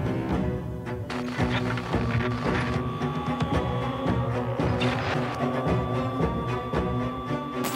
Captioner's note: suspenseful music continues; electricity crackling